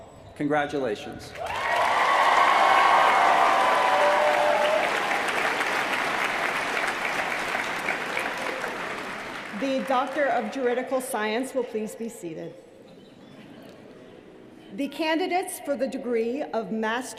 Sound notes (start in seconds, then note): 4.4 cheers & applause